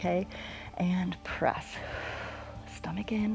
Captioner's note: exhales